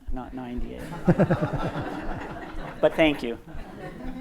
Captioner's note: audience laughs